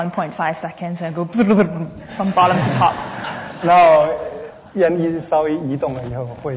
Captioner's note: speaking Mandarin; audience laughter; speaking Mandarin